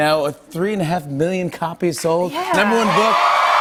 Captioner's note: cheers and applause